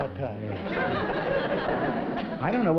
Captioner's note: laughter